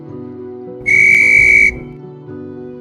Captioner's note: June blows a whistle